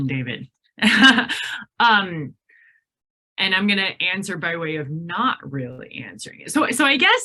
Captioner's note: laughs